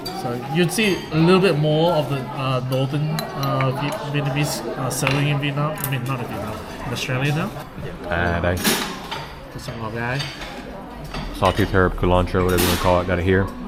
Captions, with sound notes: So you'd see a little bit more of the, Northern Vietnamese selling in Vietnam- I mean, not in Vietnam In Australia though [speaking Vietnamese] There’s some [speaking Vietnamese] Sawtooth Herb/Culantro or whatever they call it, got it here